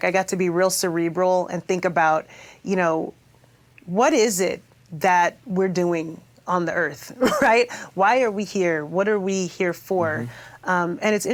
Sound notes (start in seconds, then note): 6.9 chuckles